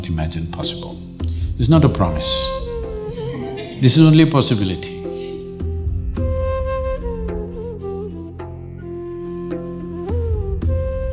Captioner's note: laughter